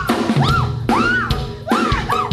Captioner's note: screams